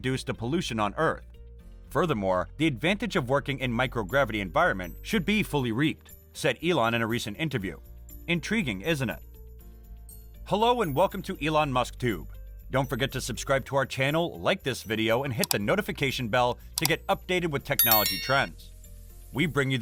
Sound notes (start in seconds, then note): 17.8 with a bell sound